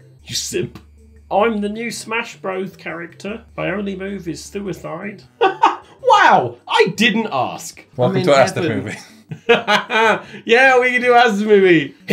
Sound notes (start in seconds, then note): 5.4 laughing; 8.8 laughing